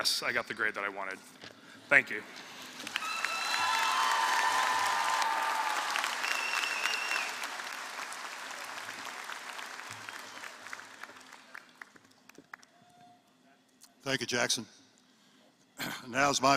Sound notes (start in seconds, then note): 2.8 applause